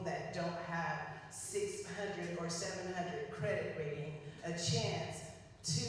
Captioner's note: none